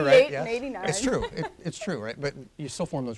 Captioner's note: laughs